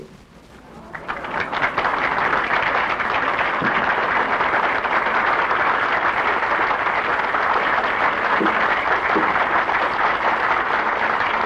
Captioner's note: applause